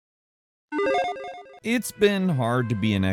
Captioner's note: digital video game beep; melancholic music